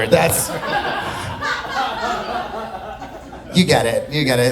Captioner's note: audience laughing